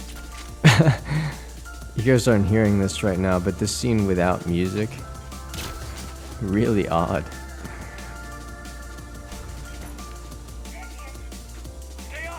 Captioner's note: laughs